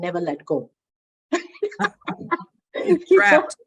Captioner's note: both laugh